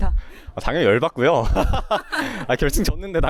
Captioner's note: laughs; laughs